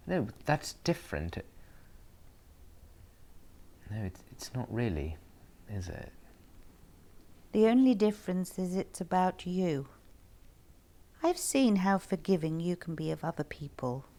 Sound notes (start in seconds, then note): none